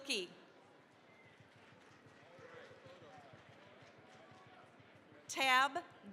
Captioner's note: applause